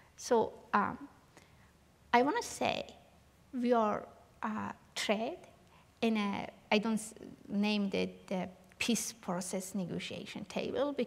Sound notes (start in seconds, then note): none